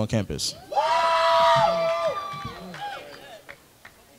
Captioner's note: crowd cheers